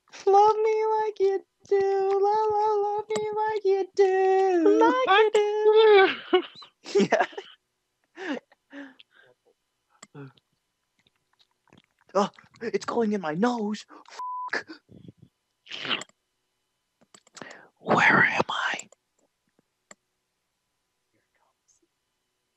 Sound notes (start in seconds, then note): 5.7 laughs; 15.7 schlurp